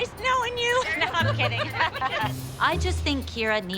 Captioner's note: laughs